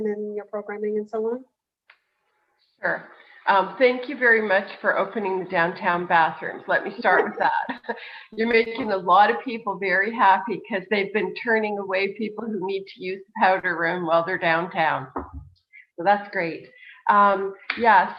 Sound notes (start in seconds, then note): 5.9 laughs